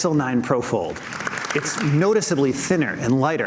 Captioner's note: audience clapping